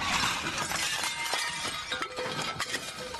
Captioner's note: crockery shattering